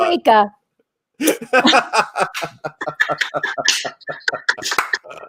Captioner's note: laugh